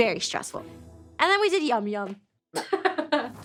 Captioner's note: laughs